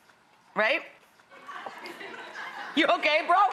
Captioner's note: laughing